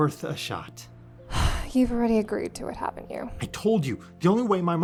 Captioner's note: sighs